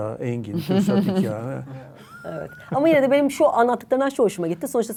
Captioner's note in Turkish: kahkaha